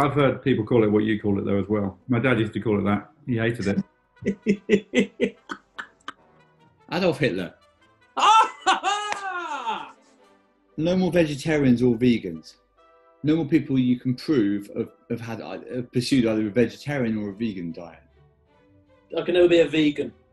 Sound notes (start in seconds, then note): 3.3 chortling; 8.2 cheers in surprise, claps